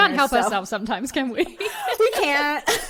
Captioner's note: laughs